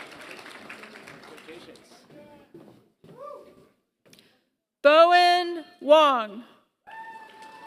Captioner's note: applause; applause